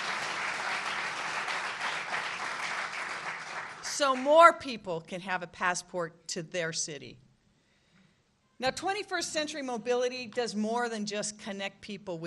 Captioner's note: applause